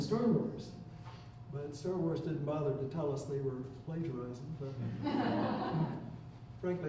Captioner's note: chuckling